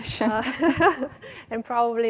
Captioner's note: laughs